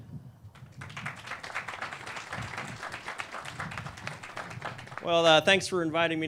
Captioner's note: clapping